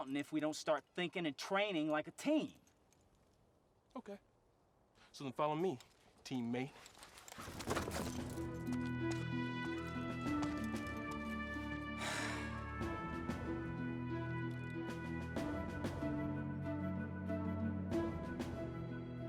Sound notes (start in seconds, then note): 12.0 frustrated sigh